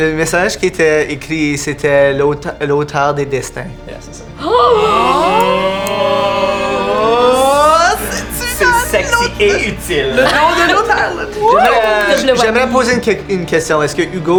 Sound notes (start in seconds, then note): 4.3 collective astonishment